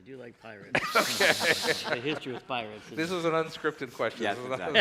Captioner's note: laughs